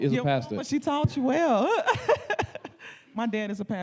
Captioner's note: laughing